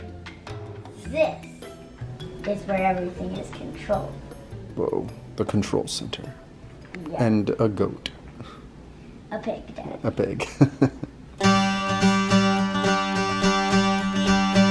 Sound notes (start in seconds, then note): 10.4 laughs; 11.4 bright music